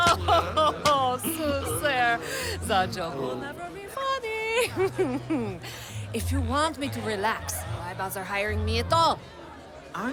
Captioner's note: the two share a "corporate-mandatory" grade laugh; fake patient voice